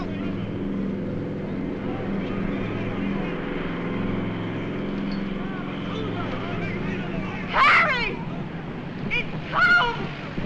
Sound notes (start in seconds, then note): 2.8 airplane Circling; 2.8 shouting Continues